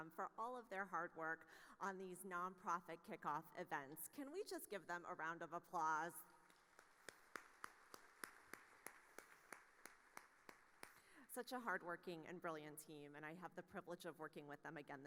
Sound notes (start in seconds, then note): 6.5 audience applauding